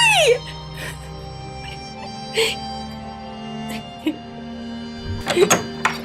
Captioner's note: Avila crying; door opening